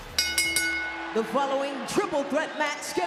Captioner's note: bell rings